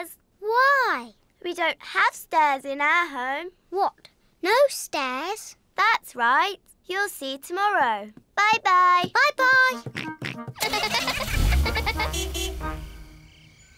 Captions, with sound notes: -Why? -We don't have stairs in our home. -What, no stairs? -That's right. You'll see tomorrow. -Bye-bye. -Bye-bye. -(GIGGLING) -(HORN TOOTS)